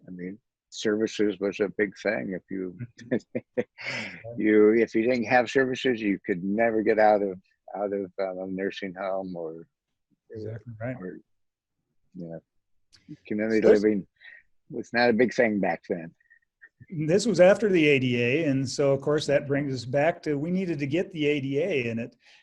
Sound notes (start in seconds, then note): 2.7 chuckles